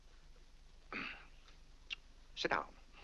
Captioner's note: clears throat